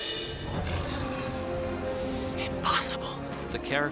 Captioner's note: roaring